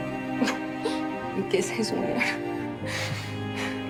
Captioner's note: Cata sniffling